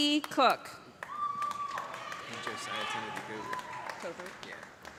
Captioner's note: cheers and applause